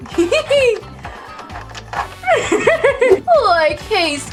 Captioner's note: Scooby laughs